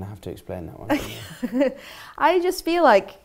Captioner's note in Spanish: risas